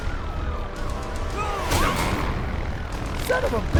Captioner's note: man shouting